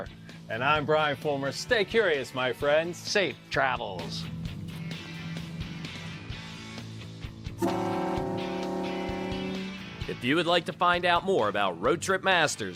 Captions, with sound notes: - And I'm Brian Fulmer, stay curious my friends! - Safe travels! (boat horn blaring) If you would like to find out more about Road Trip Masters,